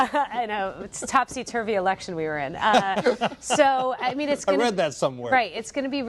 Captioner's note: laughter; laughter